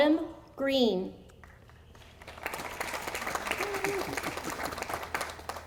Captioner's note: audience applauding